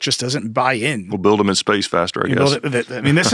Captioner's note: laughs